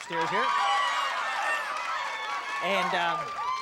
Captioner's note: cheering